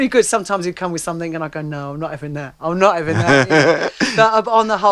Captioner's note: laughs